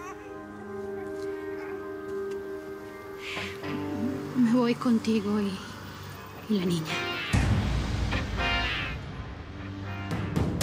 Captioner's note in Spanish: Llanto del niño